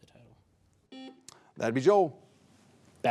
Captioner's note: buzzer buzzing